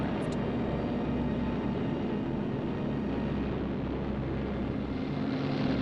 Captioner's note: airplane engines whirring